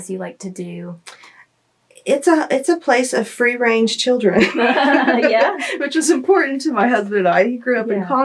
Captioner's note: laughter